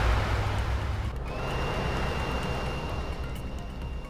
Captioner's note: alarm blares